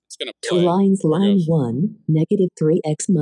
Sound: automated voice

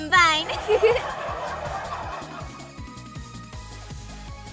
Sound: audience laughs

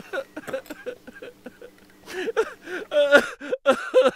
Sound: crying laughter

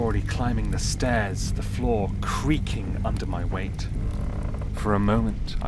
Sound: fire crackling louder

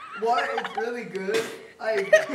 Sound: laughter continues; spitting water; laughter continues

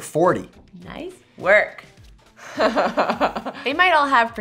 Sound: laughs

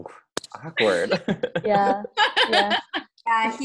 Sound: laughing

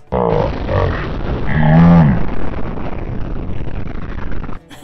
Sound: loud crash

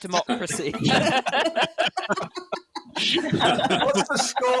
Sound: laughing

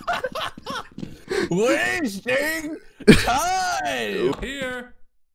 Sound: laughter; imitating Rosenberg

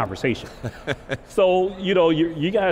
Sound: laughter

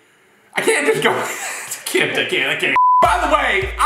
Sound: laughs

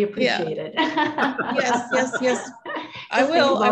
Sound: all laugh

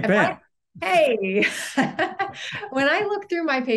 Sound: giggling

